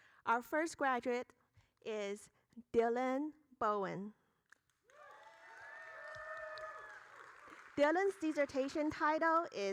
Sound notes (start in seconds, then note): 4.9 applauding; 4.9 audience cheering